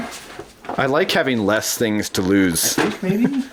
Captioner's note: voiceover